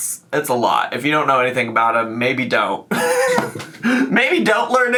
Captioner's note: laughs